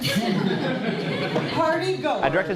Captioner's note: audience laughter